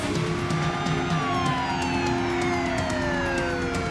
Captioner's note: siren wails